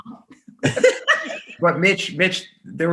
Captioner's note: laughing